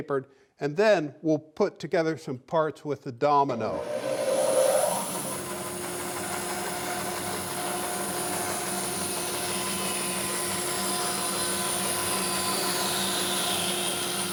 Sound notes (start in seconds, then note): 3.5 saw blade whirring